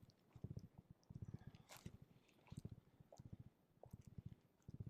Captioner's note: gravel crunching